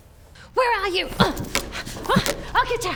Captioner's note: grunting